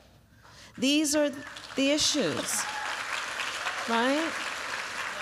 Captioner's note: applause